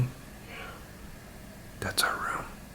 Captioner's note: whispering